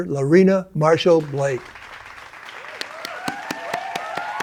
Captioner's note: applause